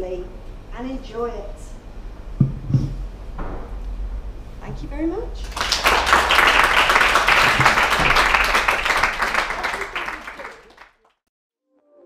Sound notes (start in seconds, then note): 5.3 thunderous applause